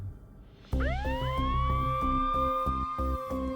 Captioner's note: siren wails